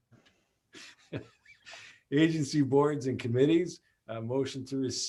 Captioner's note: laughs